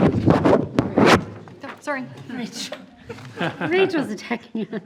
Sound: mic interference

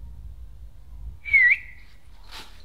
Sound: whistles

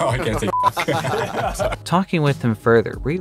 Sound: laughing

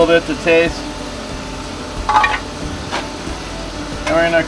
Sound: cracking sounds

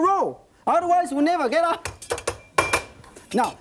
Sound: knife banging

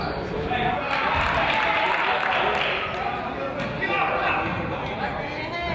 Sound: crowd applauds

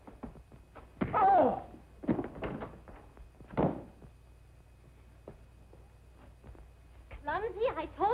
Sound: loud bang

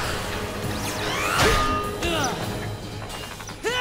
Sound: grunting; screaming

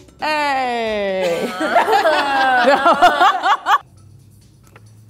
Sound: laughter

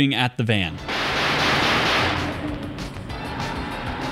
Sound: gunshots

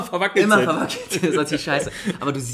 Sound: laughs

